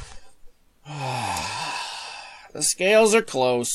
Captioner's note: frustrated sigh